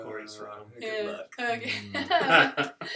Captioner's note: laughter